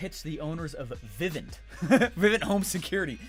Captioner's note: laughs